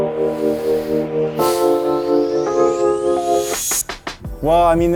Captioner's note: exhales